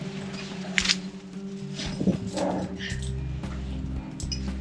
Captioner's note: rope plopping